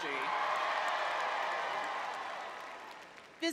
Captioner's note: crowd cheering